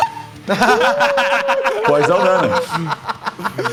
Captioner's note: laughs